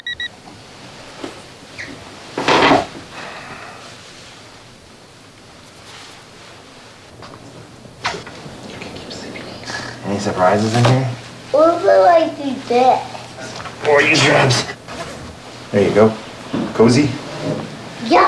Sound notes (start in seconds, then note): 11.8 mumbling